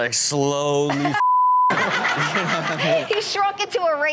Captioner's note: beep